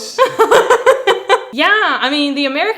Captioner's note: laughing